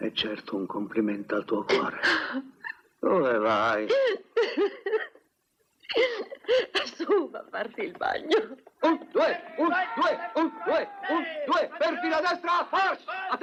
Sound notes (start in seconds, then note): 3.9 laughing